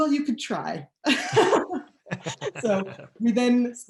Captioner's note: laughing